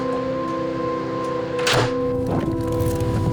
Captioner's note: door shuts